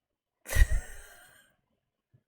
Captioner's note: laughs